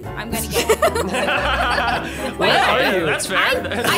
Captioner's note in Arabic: ضحكات درامية